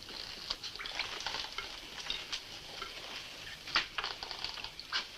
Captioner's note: water dripping